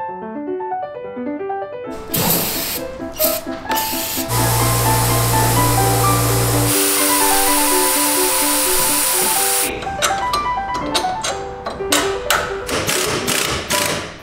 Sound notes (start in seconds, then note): 2.1 paint spraying; 3.8 gentle piano music; 6.7 air whooshing; 10.0 gentle piano music